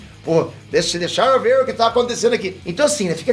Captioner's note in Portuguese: com sotaque americanizado